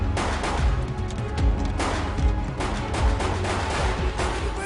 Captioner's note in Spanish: Disparos